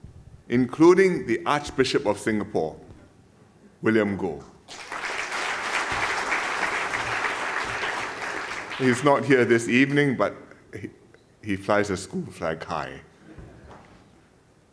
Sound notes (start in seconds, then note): 4.6 applause